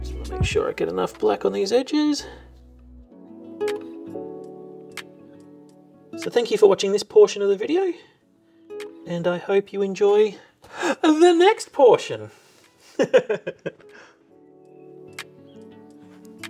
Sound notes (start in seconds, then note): 2.2 soft music; 12.9 laughs; 16.3 soft music